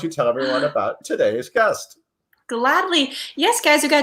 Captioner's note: gasps